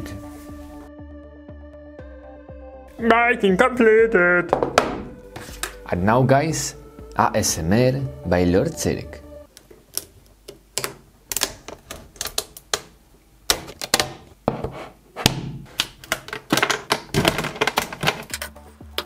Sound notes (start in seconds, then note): 9.5 clay crackling; 15.2 clay thuds; 15.6 clay crackling